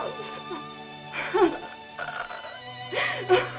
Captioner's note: sobs